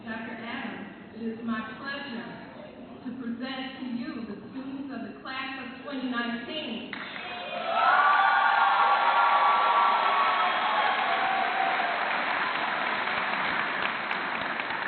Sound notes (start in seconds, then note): 6.9 clapping and cheering